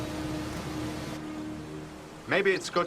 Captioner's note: birds chirping